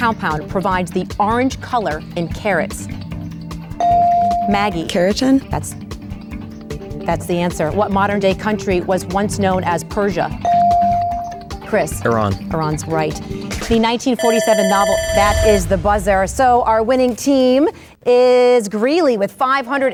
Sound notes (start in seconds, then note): 3.5 bell dings; 10.1 bell dings; 14.1 alarm buzzer rings